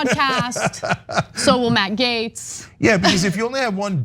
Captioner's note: laugh